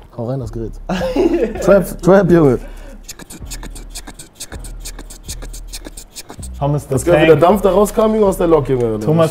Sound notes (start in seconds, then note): 0.9 laughter